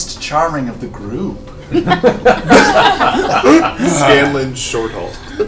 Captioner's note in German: Gelächter